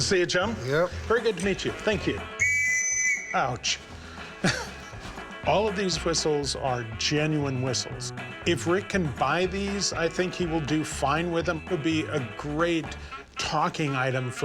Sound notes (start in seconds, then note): 2.3 whistle blows